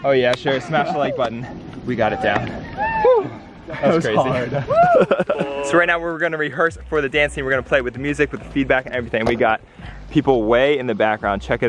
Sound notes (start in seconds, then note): 3.7 laughs